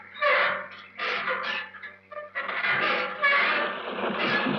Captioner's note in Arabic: صرير باب ميتال جير